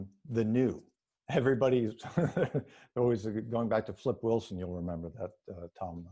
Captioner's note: laughs